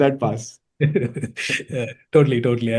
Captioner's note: chuckling